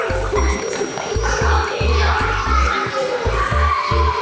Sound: kids giggling

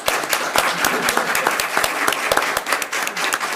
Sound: people clap

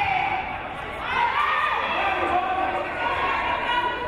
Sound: crowd cheering; crowd

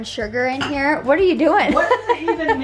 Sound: laughs

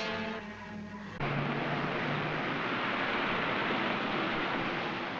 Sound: car engine running

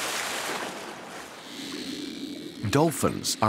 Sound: dolphins clicking

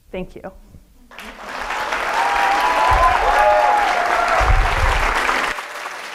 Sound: audience applauding and cheering

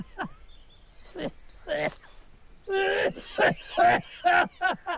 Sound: laughing; coughing; laughing

